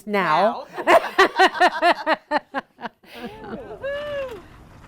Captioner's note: laughing